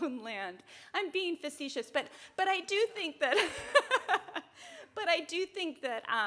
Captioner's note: laughs